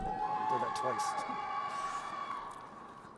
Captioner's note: crowd cheering